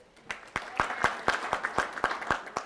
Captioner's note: audience claps